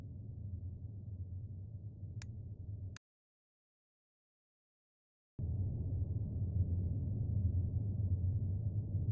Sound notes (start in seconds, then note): 2.1 light switch click; 2.9 silence